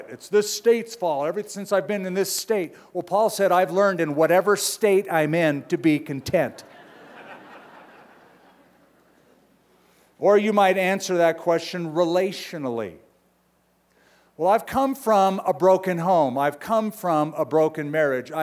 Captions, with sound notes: It's this state's fault. Ever since I've been in this state-- well, Paul said, I've learned in whatever state I'm in to be content. [LAUGHTER] Or you might answer that question relationally-- well, I've come from a broken home. I've come from a broken marriage.